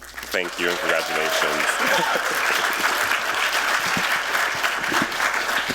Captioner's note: applause